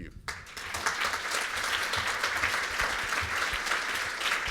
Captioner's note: applause